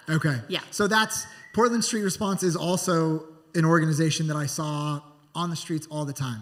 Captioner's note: whistling from Audience